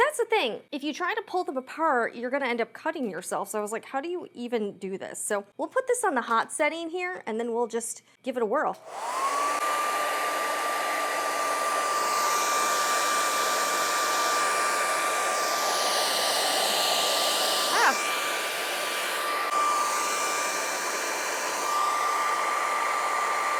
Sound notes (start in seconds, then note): 12.6 hair dryer sound